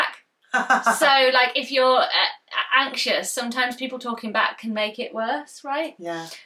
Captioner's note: laughs